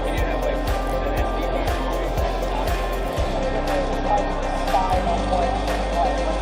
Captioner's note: crowd noise